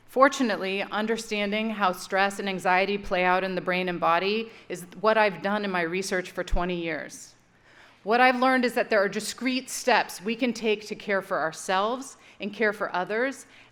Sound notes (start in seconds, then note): none